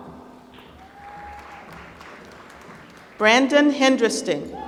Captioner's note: applause